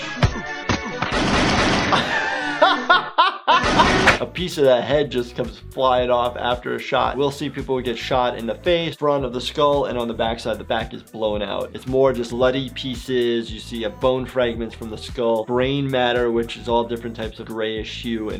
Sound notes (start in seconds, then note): 0.0 upbeat music; 1.0 gun shots; 1.8 laughing; 3.6 gun shots